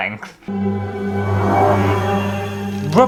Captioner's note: reveal Sound